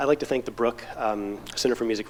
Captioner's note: none